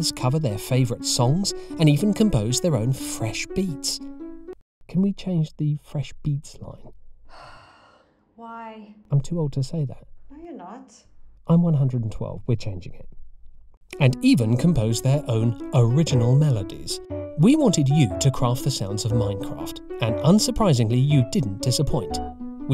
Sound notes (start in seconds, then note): 4.9 off-mic; 7.3 sighs